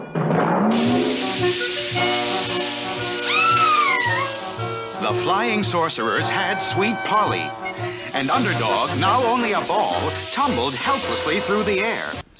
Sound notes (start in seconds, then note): 3.2 Sweet Polly Screams